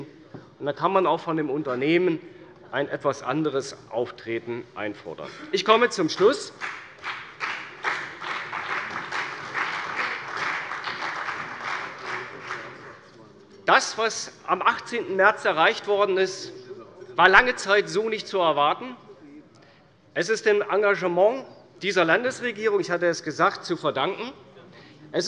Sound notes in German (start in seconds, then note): 6.0 Beifall bei der CDU und dem BÜNDNIS 90/DIE GRÜNEN